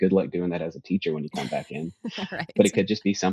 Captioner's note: laughs